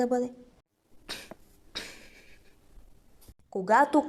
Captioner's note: wheeze